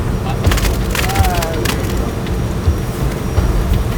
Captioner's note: mud splatting